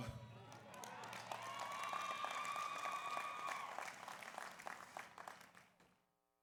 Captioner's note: audience cheers; audience applauds